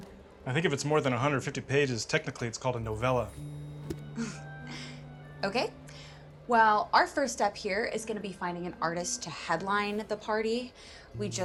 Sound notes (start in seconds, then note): 3.8 chuckles